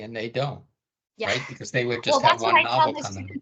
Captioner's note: chuckling